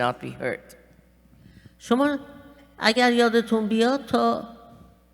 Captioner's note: speaking persian